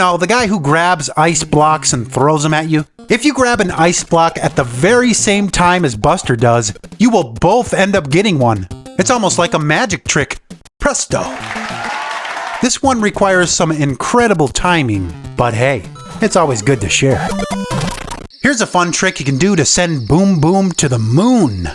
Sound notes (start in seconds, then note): 11.1 audience applauds